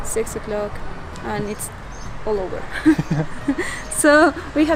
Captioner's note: chuckles